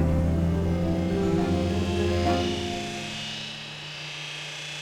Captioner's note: grinder roaring